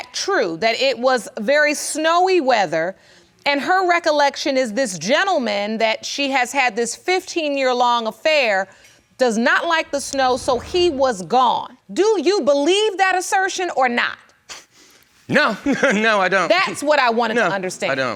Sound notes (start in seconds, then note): 14.8 chuckling